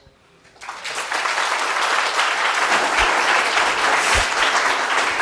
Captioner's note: audience applauding